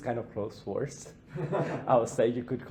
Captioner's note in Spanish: Risas